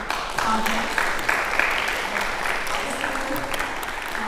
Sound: applause

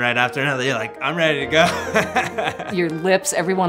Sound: laughs

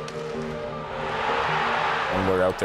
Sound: crowd cheering

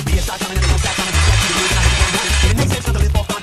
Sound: horrific metal screeching

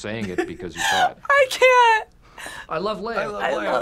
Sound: laughs

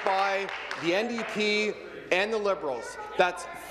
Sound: applause

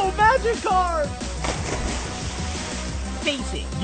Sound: Magikarp sploshes

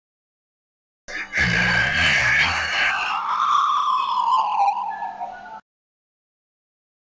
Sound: sound of creepy chill

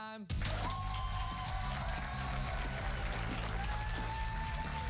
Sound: cheers and applause

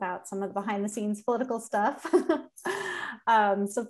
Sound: laughter

